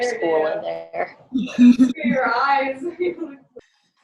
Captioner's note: laughs